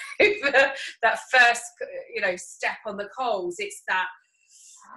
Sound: breathes in

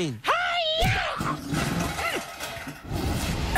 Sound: crash!

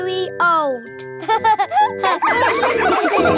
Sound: all laughing

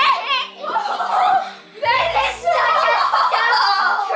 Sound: screaming

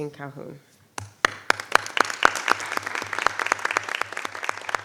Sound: audience applauding

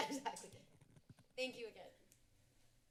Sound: laughs

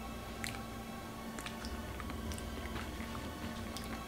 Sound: chewing Sounds

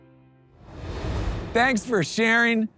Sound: transition whooshing

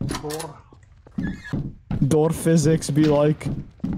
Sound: door sounds; door opens

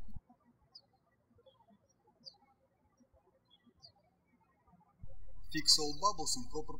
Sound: birds chirping

